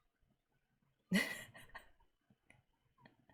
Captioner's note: laughs